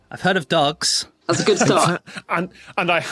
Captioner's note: laughs